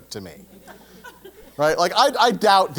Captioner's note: laugh